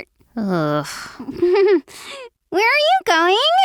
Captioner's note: giggles